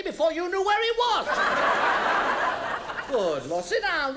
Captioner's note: audience laughs